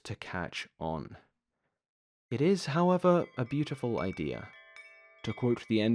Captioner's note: wind chime SFX begins